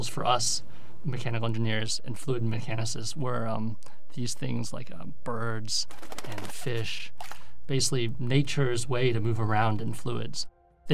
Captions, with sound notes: for us mechanical engineers and fluid mechanists were these things like birds and fish. [wings fluttering] Basically, nature's way to move around in fluids.